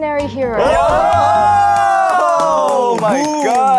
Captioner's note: bbaammmm